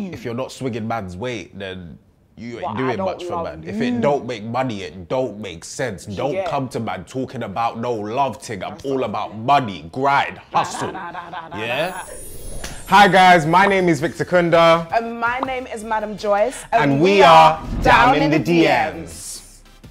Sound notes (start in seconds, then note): 10.7 blowing; 11.6 whimsical music